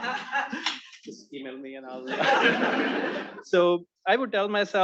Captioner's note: attendees laughing